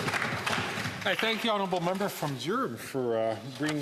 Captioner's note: some Applause